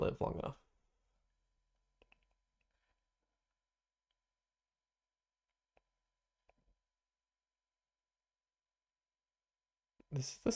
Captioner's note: silence